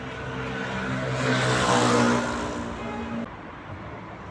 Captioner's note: loud motorbike passing